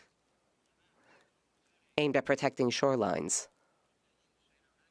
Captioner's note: speaking French